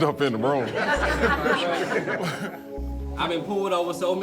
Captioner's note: laughter